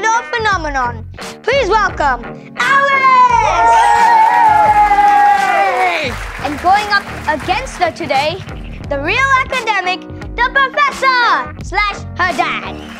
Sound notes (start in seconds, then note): 2.7 crowd cheering